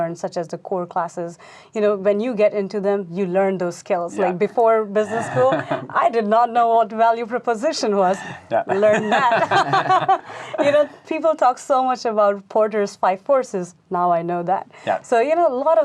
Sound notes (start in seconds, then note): 9.8 laughing